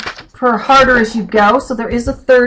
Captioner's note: flipping pages